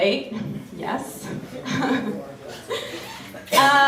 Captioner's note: laughs